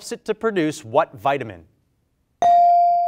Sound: bell rings

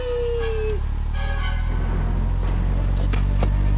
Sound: plane engine starting

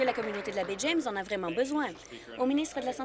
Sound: applause

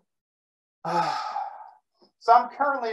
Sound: breathes in deeply

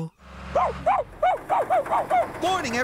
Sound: barking

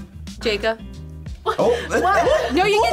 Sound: laughs

